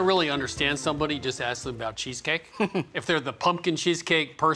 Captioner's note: laughs